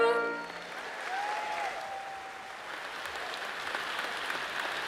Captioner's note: all applauding